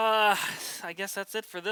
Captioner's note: sighing